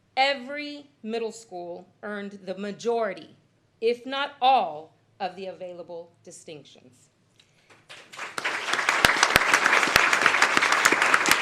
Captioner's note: applause